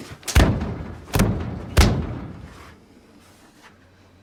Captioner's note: fist thudding